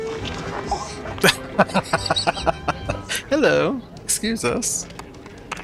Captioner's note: laughing